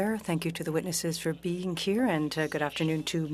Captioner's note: speaking French